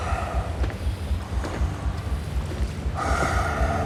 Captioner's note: laboured breathing